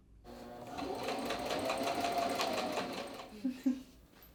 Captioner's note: sewing machine whirs